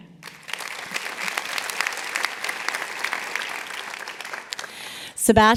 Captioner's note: applause